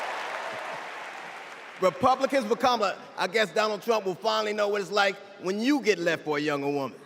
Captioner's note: cheers and applause